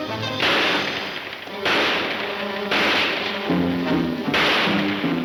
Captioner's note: gunshots banging